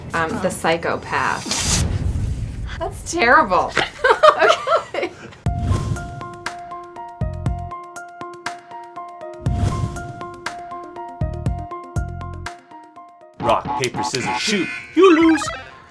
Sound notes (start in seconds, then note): 1.6 laughing; 5.5 intense music